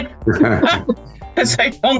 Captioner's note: both laughing